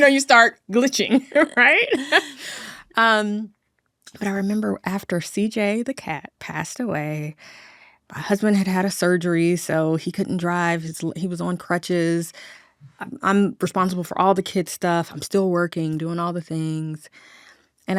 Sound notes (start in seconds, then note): 1.1 laughing